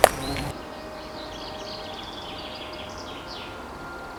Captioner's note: birds chirp